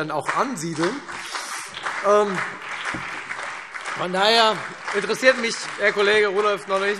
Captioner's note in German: Beifall Freie Demokraten, CDU und BÜNDNIS 90/DIE GRÜNEN